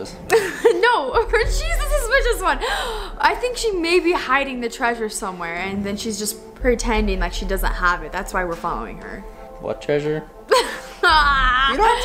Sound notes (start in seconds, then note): 0.3 she laughs; 2.6 gasps; 10.5 she laughs and groans